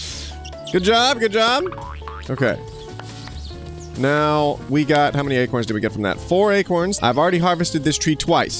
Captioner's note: laughing; boing